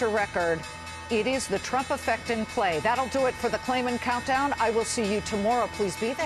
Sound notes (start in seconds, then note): 2.2 closing bell rings